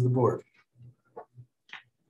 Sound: silence

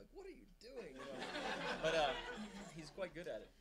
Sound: audience laughing

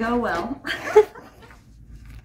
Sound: laughing

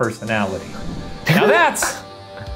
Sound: laughing

